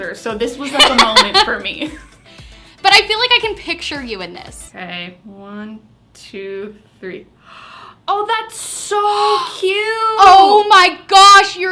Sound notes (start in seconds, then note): 7.4 gasps